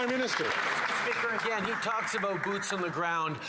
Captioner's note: some Applause